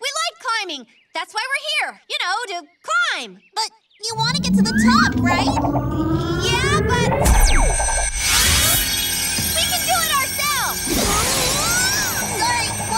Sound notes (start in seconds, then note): 4.2 power whirring